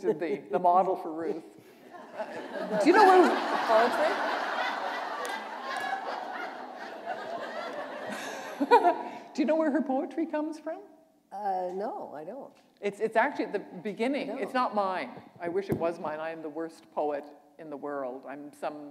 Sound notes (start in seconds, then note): 5.3 laughter